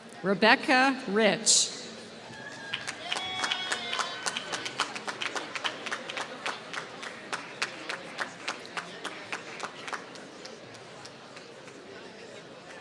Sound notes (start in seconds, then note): 3.5 applause